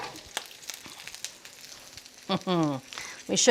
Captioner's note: patties continue sizzling; laughing